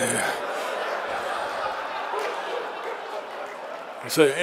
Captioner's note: audience laughing